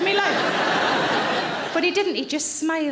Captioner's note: audience laughing